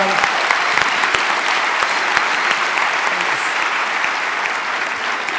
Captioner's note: audience applause